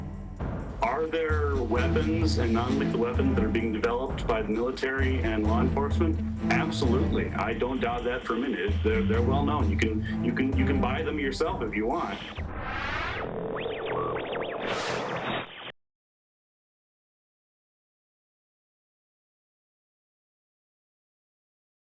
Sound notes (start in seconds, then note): 8.2 rapid pulsing noise